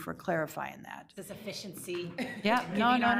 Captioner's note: chuckles